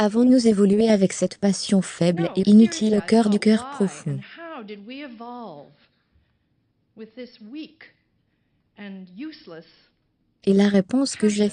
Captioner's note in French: rire en public